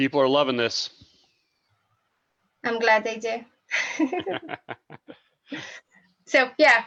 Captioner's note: giggles; laughs